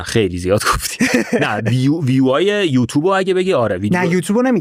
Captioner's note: laughs